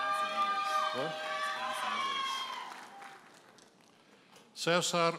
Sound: audience cheers and applauds

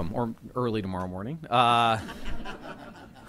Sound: laughter

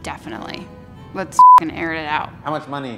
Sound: beep

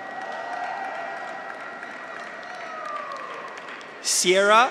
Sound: audience applauds; graduates cheer

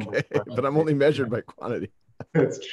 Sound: laughs

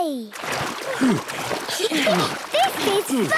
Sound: panting; snorts, giggles

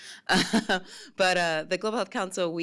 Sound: laughs

